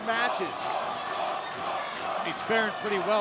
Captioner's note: crowd cheering